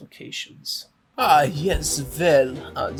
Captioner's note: voice with heavy German Accent